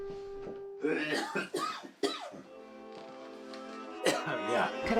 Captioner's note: Pappy coughing